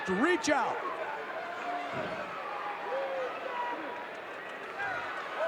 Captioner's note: audience cheering